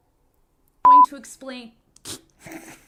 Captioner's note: beep